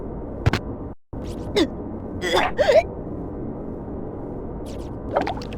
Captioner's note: vomit